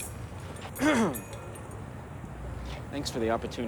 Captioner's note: Adrian clears his throat